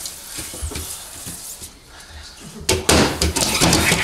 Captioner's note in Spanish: golpes